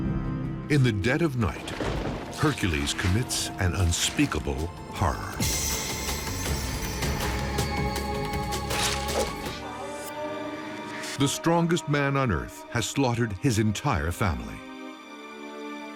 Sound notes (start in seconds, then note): 4.9 grim music; 8.2 blood splats